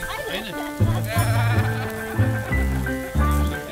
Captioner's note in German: Sie lachen ausgelassen